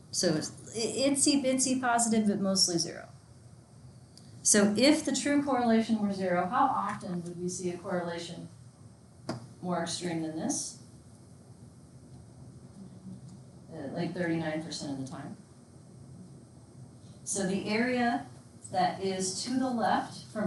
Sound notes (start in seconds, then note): 13.3 student speaks faintly